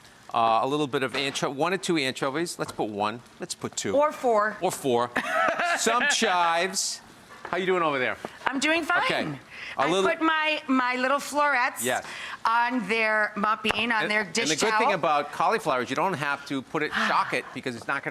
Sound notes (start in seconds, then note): 5.2 laughing